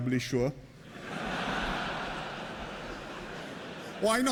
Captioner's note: laughter